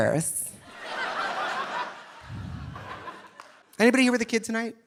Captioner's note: audience laughing